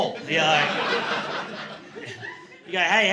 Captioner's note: laughter